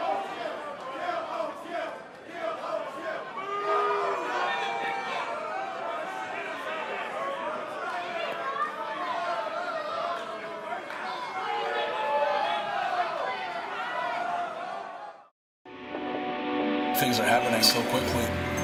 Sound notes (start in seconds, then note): 2.2 fans chanting